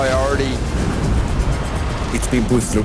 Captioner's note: wave crashing